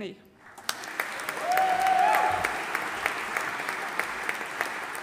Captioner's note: audience applauding